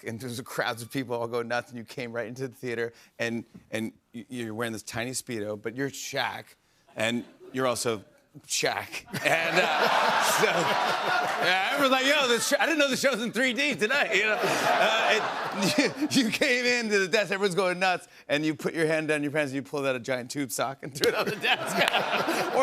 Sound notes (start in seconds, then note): 9.0 laughter